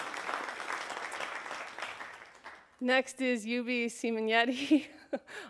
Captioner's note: applause